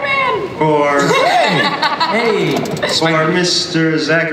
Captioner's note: audience and panelists laugh; voiceover